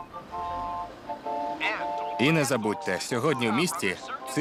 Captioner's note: man on radio